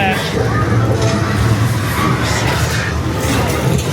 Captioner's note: machine cranking